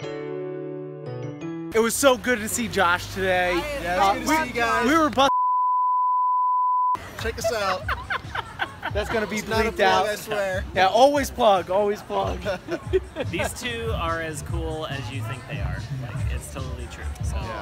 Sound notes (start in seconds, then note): 5.3 beep; 7.3 laughing; 12.4 laughter